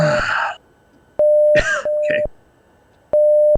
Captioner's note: cough